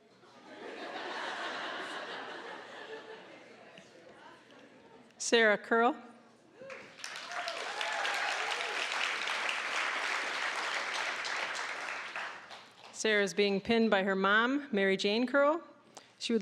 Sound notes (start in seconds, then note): 0.4 audience laughing; 6.6 applause, cheering